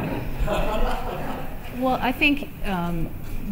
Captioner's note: laughter